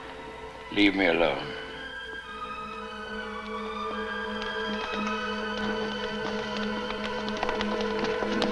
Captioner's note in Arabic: موسيقى هادئة; خطوات قوية